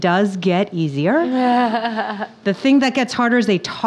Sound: laughing

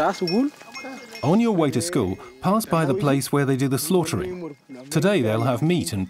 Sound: speaking in foreign language

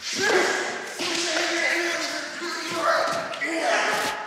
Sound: wrestlers grunting

